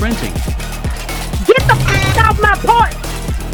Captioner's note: skedadling noises